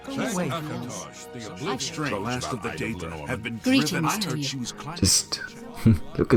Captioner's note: bar patrons chat incessantly; chuckle